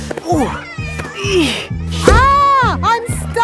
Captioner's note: grunting